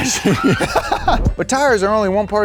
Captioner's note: laughs